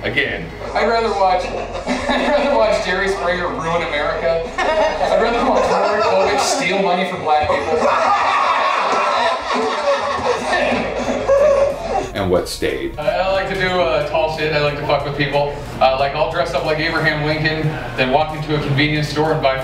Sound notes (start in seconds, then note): 1.2 laughs; 4.6 laughter